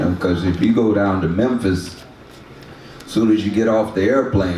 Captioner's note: none